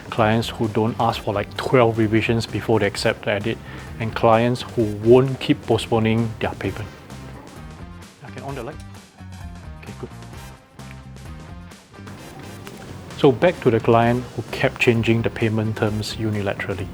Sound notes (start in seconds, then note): 7.9 chattering